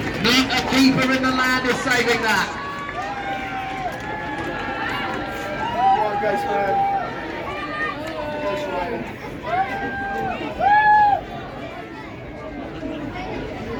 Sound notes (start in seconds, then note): 2.6 cheering